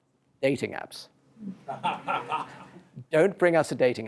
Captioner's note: laughter